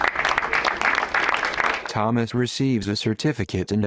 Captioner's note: crowd applauds